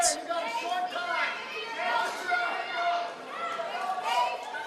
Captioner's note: audience cheering